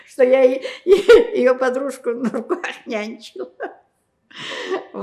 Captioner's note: laughing